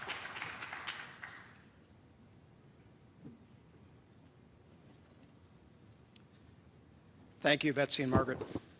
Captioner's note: applause